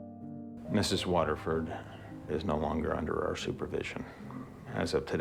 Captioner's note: voiceover